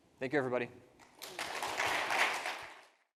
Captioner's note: participants applaud